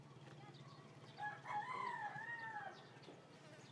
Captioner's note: rooster crows